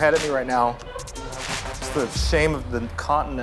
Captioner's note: laughs